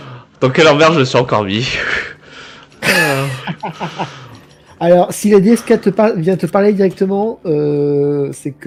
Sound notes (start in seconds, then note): 2.8 laugh